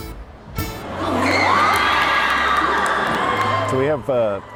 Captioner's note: students cheering